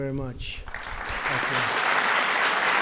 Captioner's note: applause